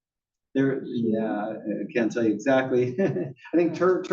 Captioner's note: laugh